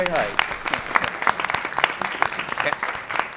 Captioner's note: applause